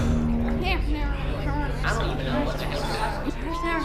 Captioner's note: party muttering; cop sirens growing closer